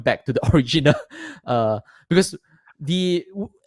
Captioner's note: laughs